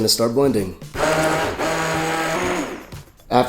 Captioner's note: blending noise